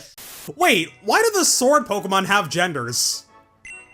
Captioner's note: static